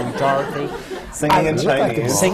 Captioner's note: laughter